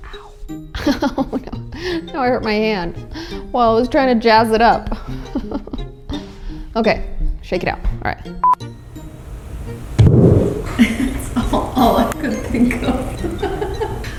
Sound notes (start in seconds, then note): 4.8 laughs; 10.0 thud; 13.4 laughs